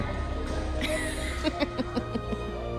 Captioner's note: laughs